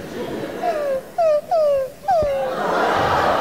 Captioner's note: whimpering